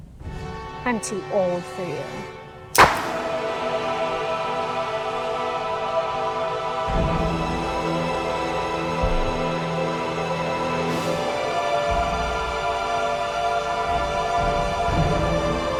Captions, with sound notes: - I'm too old for you. (gunshot blasting) (tense music) (tense music continues)